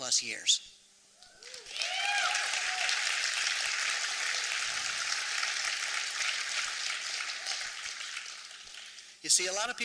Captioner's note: applause